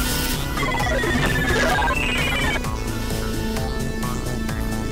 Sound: electronics bleeping

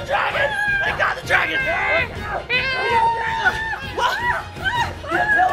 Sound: family screaming and playing

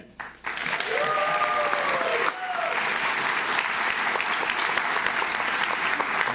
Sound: audience claps; audience cheers

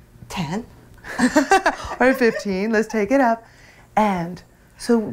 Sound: laughs

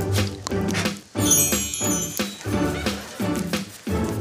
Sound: tinkling

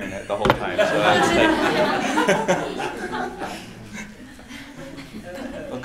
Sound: laughing

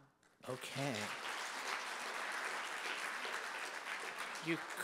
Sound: audience applauding

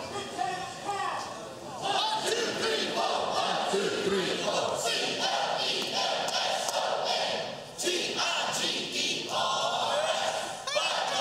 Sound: clemson chant

